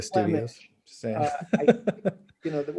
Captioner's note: laughing